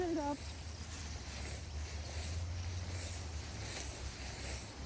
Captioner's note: grass rustling